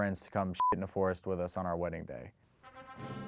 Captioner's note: beep; wedding music